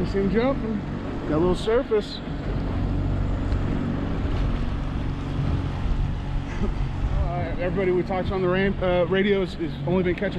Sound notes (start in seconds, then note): 3.8 boat engine idling